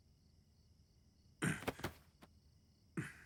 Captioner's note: grunts